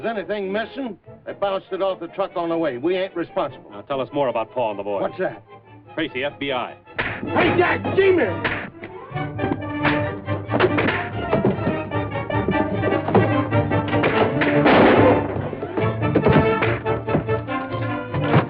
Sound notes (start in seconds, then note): 8.9 fighting noises